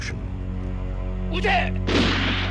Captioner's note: speaking japanese; gunfire